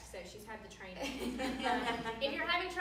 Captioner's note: laughing